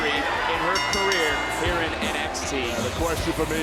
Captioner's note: bell dings